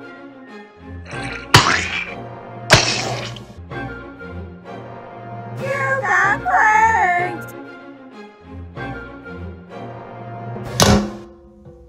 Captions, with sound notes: [SPLATS] You got pranked! [THUD!]